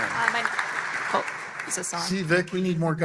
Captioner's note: applause